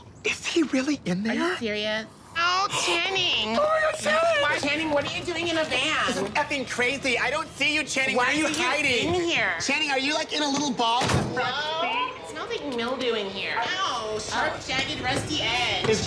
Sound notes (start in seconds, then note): 10.4 doors clunk